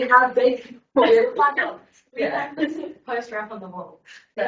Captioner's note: people laughing